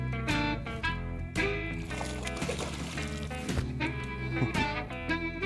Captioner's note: relaxed country music continues; water splashing